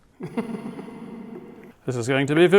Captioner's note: laughing lower pitch; laughing w reverb